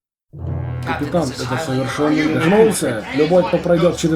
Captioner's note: protesting in unison